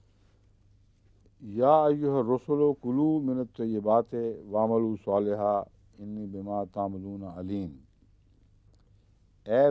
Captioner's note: Arabic